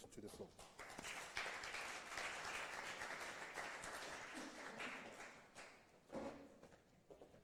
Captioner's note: applause